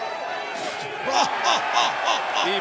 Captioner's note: laugh